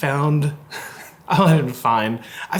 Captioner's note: laughing